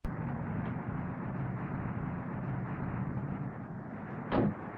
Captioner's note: traffic whooshing; car door thudding